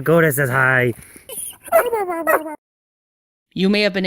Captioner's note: Koda barks, Kero mimics the barking